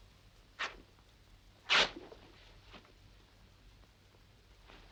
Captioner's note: clothes ripping